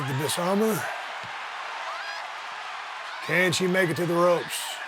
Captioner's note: audience cheering